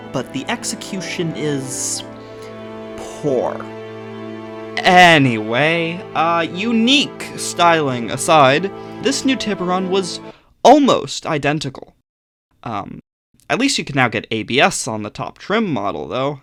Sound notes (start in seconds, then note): 5.0 dramatic sound effects